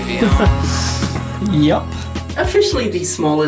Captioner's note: laughs